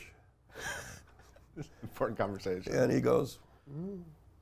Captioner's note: laughs